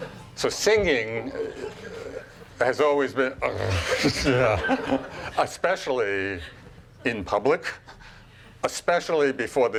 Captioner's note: grunts